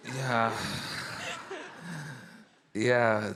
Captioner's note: all laughing